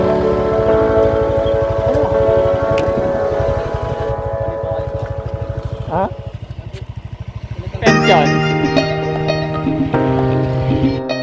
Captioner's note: man talking in Pangasinan dialect